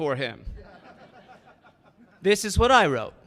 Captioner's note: audience laughing